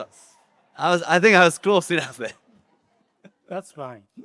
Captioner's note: chuckles